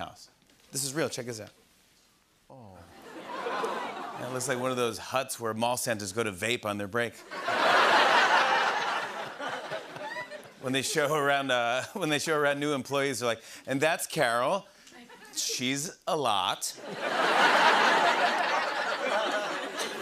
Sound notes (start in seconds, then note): 2.5 audience murmurs; 7.2 laughter; 16.8 laughter